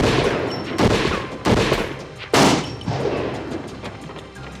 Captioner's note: gunshots